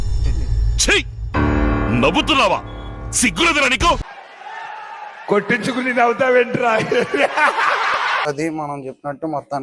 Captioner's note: laughter